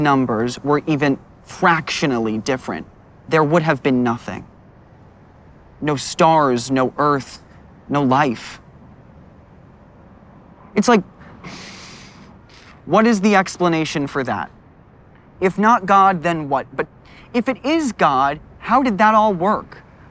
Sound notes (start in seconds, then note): 11.3 sighs